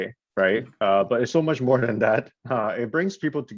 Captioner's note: chuckles